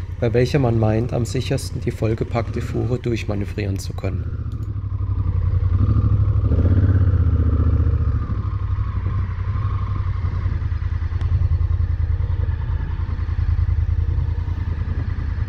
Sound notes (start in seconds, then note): 4.8 engine noise